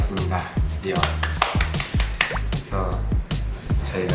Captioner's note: clapping